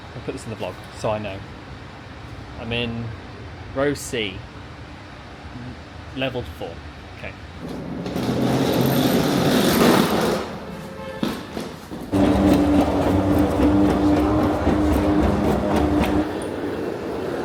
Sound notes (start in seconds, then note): 7.6 wheels buzz; 12.1 escalator whirs; 12.2 case clunks